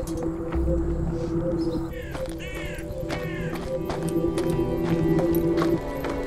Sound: birds chirping; crows cawing

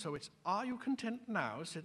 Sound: with british accent

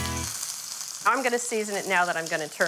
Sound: steak sizzling

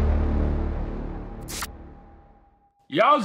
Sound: static buzzing

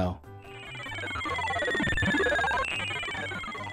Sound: radar scanning sound

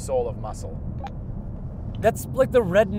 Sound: beep

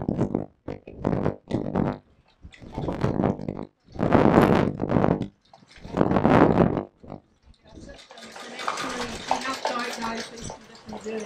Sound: Wellington wind

